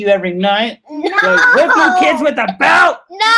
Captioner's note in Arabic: يضحك